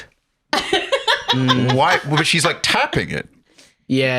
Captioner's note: laughs